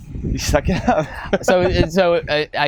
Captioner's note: chuckles